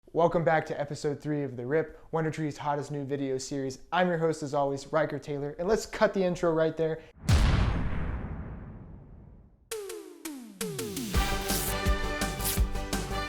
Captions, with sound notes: - Welcome back to episode three of The Rip, WunderTRE's hottest new video series. I'm your host as always, Ryker Taylor, and let's cut the intro right there. (explosion) (upbeat music)